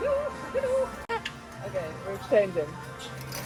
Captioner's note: arcade sounds